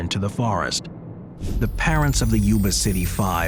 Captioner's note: transition whooshes; crystal chimes